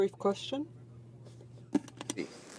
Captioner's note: speaking in french